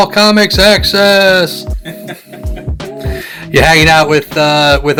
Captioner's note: laughs